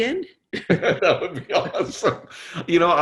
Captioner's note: laughing